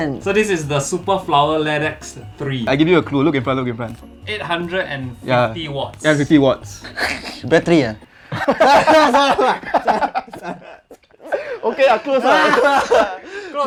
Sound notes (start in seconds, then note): 8.3 dying of laughter